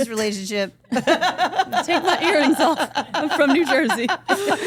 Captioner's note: Steph laughs